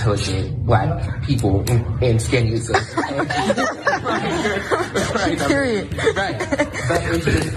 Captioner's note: laugh